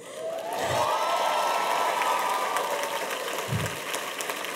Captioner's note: cheers and applause